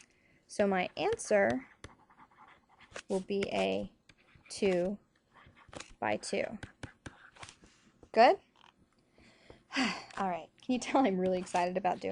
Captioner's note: sigh